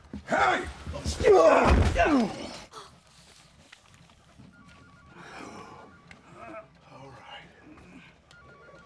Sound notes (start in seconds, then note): 2.0 grunts; 2.7 gasps; 6.3 employee groans